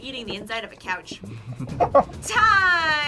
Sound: both laugh

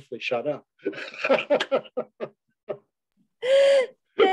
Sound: laughter

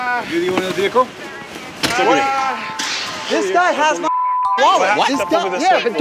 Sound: beep

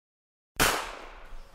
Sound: bang!!

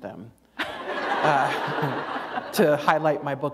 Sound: laughter

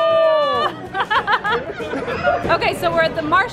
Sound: laughing

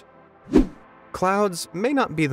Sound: video whooshing

